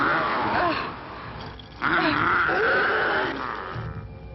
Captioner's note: Leonor grunts